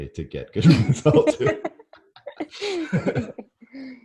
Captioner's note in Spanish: ambos se ríen